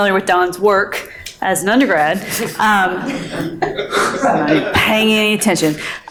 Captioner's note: all laughing